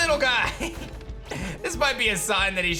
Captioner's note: giggles